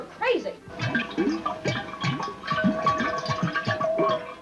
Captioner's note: water gurgling